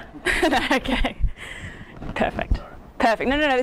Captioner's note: laughing